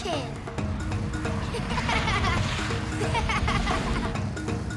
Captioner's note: laughing